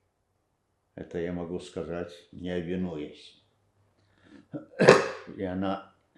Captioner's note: coughing